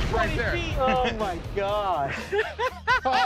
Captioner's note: laughter